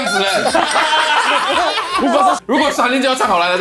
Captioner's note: laughs